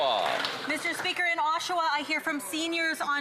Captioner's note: some Applause